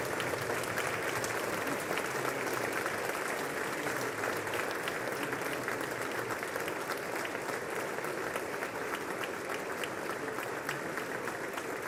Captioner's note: applause